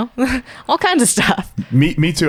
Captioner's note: laughs